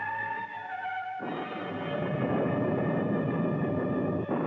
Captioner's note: thunderclap